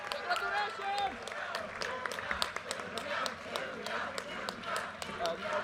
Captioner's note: audience cheers and applause; students chanting